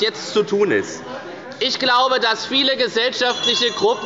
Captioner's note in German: Unruhe – Glockenzeichen der Präsidentin